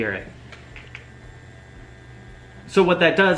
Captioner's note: gentle vibrating noise